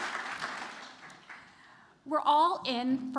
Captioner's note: applause